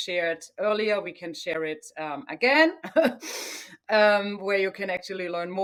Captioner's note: chuckles